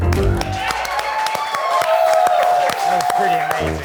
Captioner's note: cheering